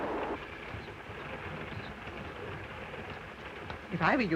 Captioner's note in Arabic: هدير القطار; صوت خشخشة القطار